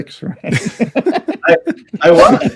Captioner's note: laughing